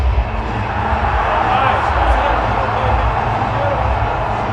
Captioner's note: crowd cheers